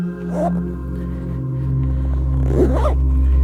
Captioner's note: gentle ethereal music continues; zipper zipping